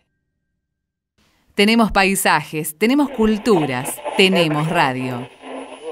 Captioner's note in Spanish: voz en off